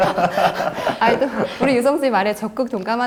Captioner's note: laughing